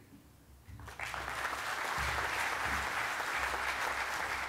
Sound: audience applauding

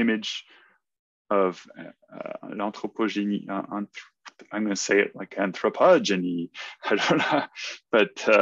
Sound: laughs

